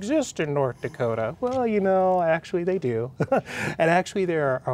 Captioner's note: laughs